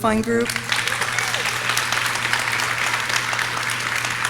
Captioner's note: audience clapping